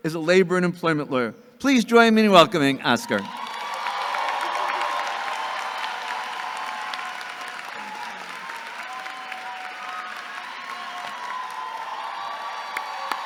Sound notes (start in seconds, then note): 3.5 audience cheering and clapping